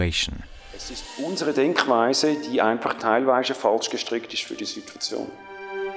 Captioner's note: foreign Language